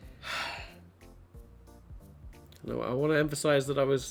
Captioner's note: sigh